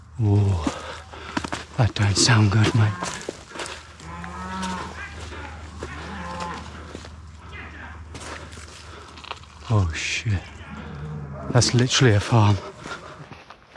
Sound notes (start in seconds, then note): 3.6 cows mooing